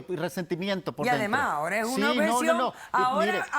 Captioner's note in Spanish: Hablan al unísono